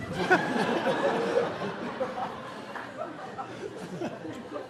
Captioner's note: audience laughing